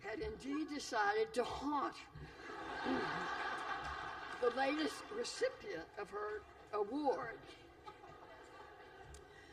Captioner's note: laughter